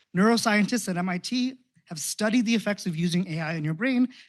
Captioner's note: none